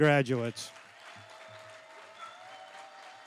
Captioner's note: applause